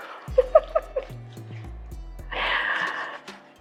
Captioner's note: laughs